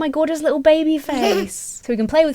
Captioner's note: baby coos